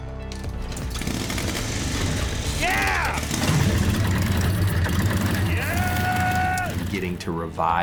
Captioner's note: engine starts